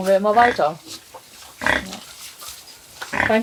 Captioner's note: grunts